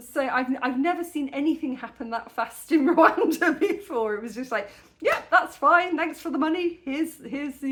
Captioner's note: laughing